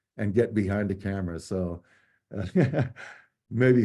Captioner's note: laughter